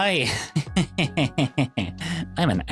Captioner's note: laughs